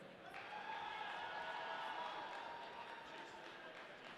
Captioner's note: audience cheering